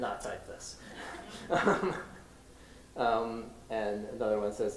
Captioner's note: laughter